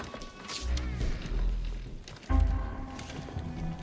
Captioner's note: door squeaking